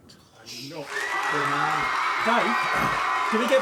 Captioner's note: applause